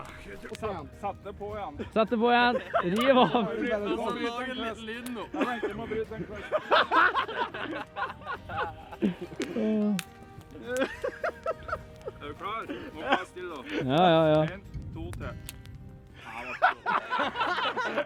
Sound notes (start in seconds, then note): 15.1 pathetic snap sound